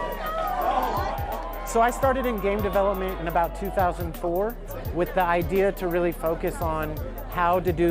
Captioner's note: cheering